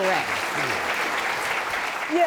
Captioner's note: audience clapping